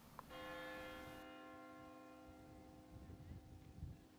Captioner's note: church bell tolling